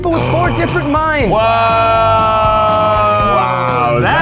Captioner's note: cheer